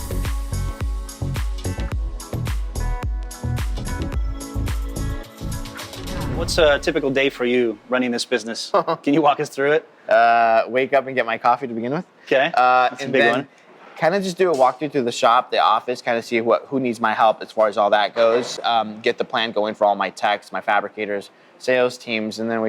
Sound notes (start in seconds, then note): 0.0 upbeat music; 7.5 laughs